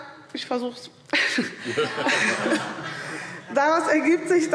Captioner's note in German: Heiterkeit